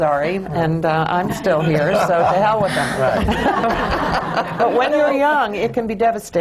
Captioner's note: laughter